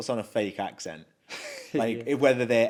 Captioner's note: chuckles